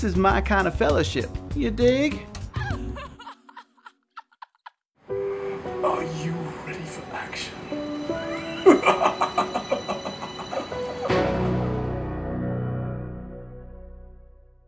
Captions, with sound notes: this is my kind of fellowship, you dig? *female laughter* *dramatic piano music* Are you ready for action? *creepy laughter*